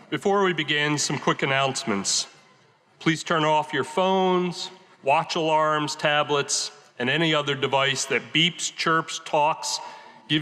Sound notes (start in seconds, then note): none